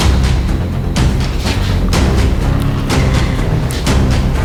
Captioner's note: dramatic music; sighs